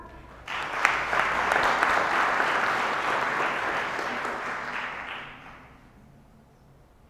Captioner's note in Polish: oklaski